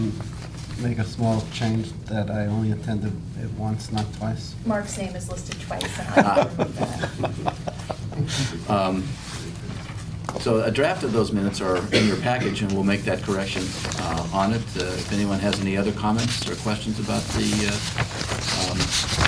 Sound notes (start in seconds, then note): 5.8 laughter